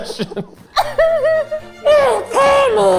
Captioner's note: group laughing